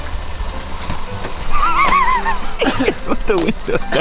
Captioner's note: laughing